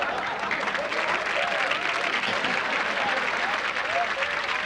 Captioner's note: audience laughs; applause